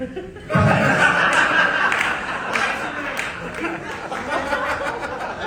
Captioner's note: audience laughing